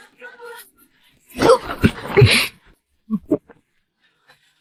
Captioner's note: cough cough